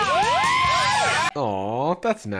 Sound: women cheering

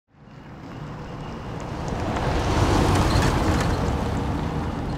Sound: vehicle speeding

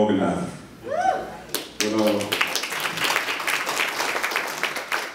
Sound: cheers and applause

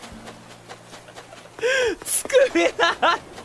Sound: inhales; cries

